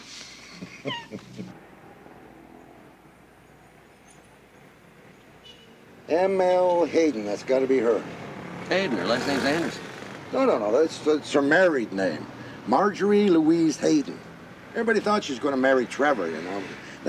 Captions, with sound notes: I wouldn't miss it for anything. [laughter] M. L. Hayden. That's gotta be her. Hayden? Her last name's Anderson. No, no no. That's her married name. Marjorie Louise Hayden.